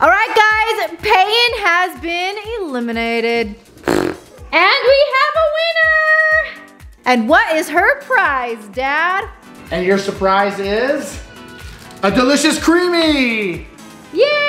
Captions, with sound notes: - Alright guys, Payton has been eliminated. (blowing raspberry) - And we have a winner! And what is her prize, Dad? - And your surprise is a delicious Creamie!